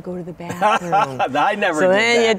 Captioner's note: laughing